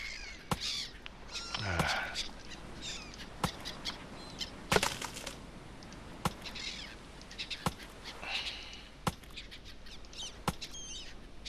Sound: huffs

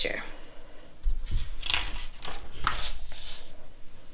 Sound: page flips

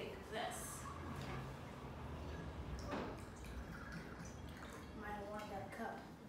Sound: pouring

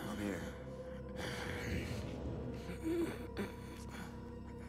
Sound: Gabriel groans

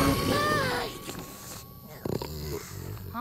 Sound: deep growling; yawns; snoring

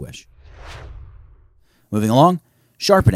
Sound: swooshes

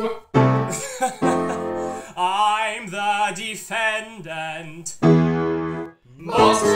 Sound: laughs

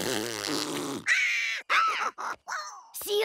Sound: shrieking

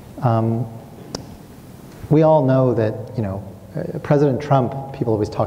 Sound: clicks tongue

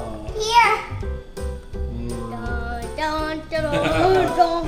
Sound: assistant hums; voiceover

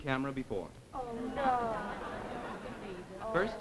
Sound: audience laughs

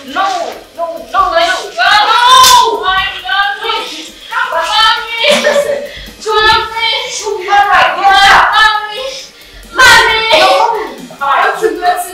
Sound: shouting

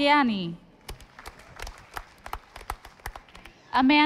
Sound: audience applauding

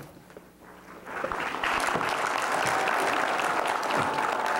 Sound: applause

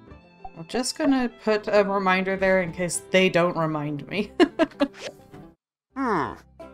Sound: laughs

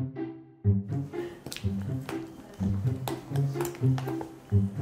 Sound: chewing

